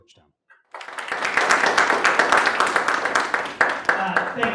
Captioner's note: audience applauding